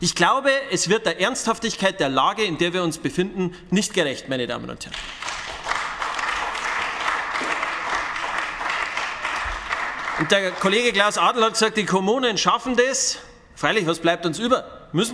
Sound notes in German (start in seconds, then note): 4.9 Beifall bei den GRÜNEN